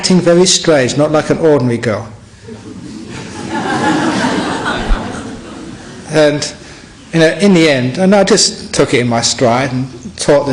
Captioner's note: laughter